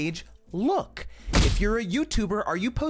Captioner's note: air whooshes